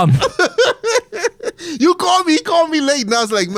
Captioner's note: laughs